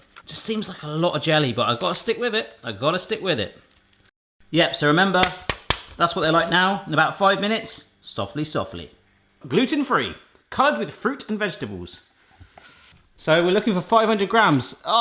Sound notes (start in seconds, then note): 5.2 snapping